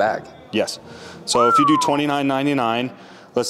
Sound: whistles

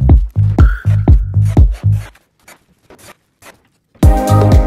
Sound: drill whirs; upbeat music

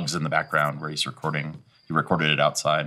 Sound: bugs chirping

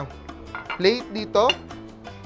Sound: clink

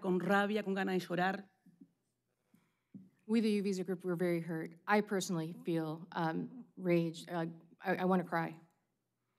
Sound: speaking spanish

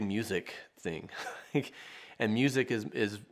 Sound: chuckles

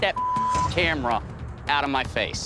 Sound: beep

